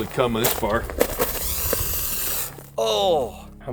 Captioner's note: spray hisses